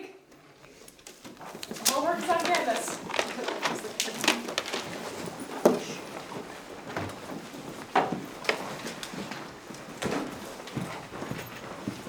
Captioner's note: sound of students packing up